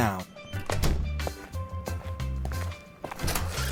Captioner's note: footsteps; door opening